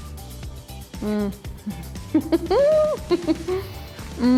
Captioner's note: laughs